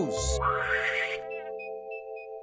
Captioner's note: woosh!